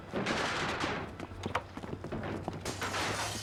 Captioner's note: broken glass. construction and hammer sounds